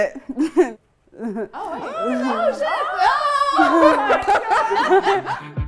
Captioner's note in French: exclamations et rires